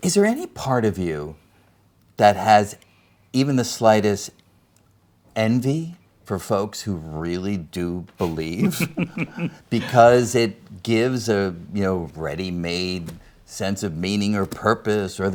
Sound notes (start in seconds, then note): 8.2 laughs